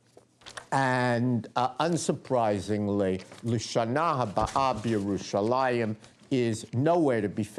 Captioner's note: non-english speech